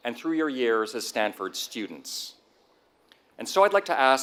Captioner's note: none